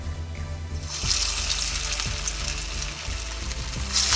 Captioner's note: batter frying